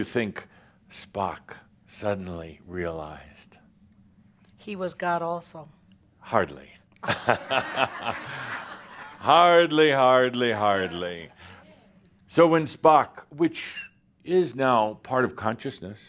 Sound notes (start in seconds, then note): 7.0 laughter